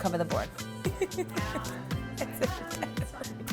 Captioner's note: giggling